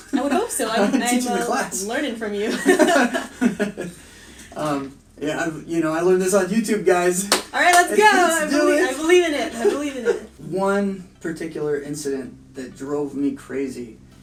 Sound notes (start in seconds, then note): 2.4 laughter; 7.2 hands clap; 9.4 laughter